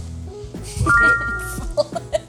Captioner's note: text chiming brightly; laughing